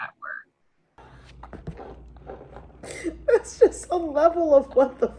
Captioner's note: laughing